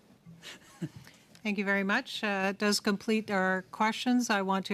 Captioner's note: laughter